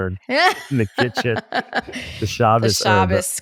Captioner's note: laughs